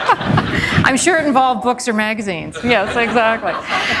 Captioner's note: laughter